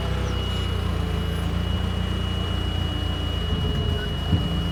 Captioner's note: fork truck motor humming